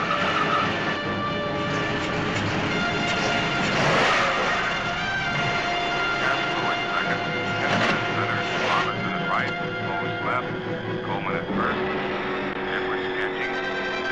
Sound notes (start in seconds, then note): 3.6 engine stalling